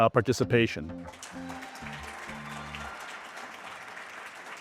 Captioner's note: audience clapping